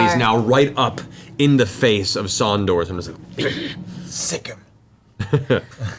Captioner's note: grunts